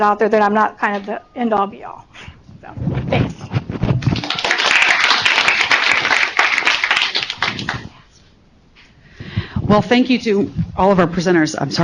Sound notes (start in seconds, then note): 3.9 applause